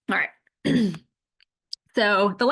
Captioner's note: clears throat